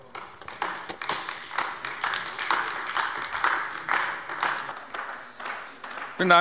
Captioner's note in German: Beifall AfD